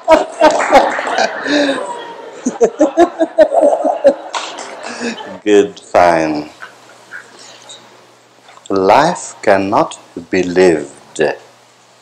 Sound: laughter

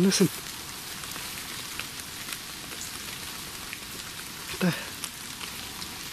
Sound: rain pattering

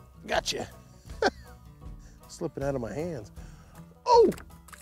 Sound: laughs

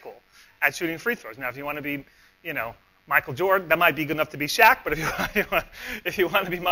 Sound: laughs

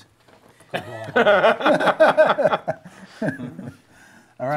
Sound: laughing

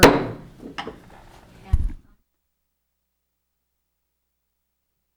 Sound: gavel hammering

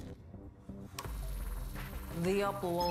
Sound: electric hum

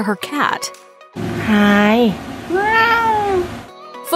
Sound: meow

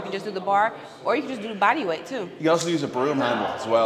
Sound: none

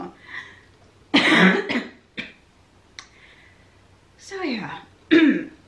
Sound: coughing

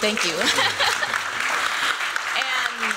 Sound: applause

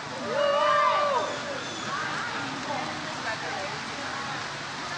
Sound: audience cheers

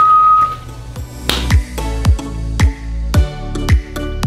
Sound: whistling; glove snaps

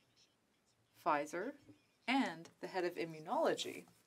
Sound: speaking French

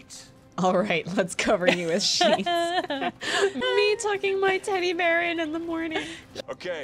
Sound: laughter

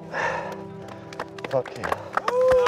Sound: clapping

